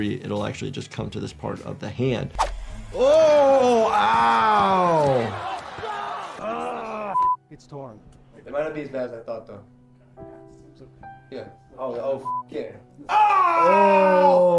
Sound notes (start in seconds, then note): 5.3 audience cheering; 7.2 beep; 10.5 gentle music; 12.2 beep